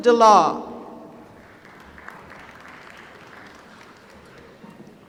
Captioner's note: applause